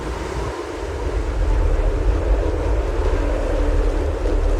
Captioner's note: wind whirring